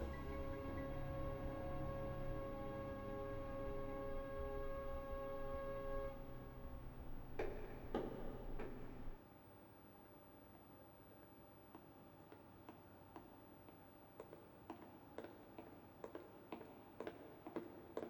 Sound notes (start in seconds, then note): 0.1 curious music; 11.7 footsteps echoing through hallway